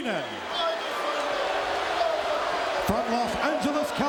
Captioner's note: audience cheering